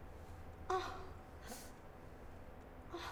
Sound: groaning in pain

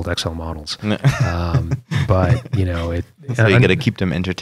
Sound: laughter

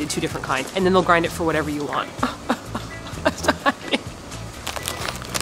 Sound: sobbing noises

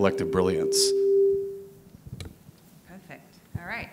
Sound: microphone screeching

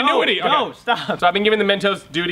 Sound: laughs

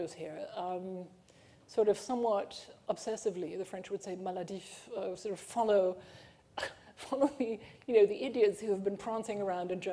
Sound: french

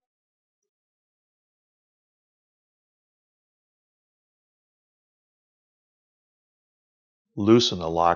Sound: silence

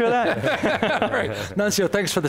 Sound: all laughing

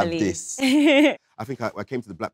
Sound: Letitia chuckles

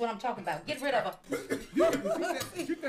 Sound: some family members chuckle

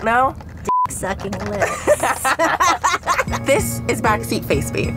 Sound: beep; laughing

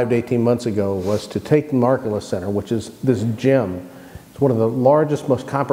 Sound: murmur

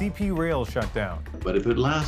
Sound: speaking Foreign Language

